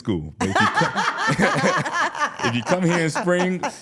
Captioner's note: all laughing